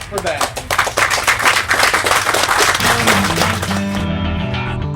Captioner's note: applause